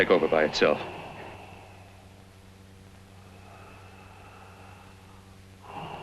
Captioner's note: deep breathing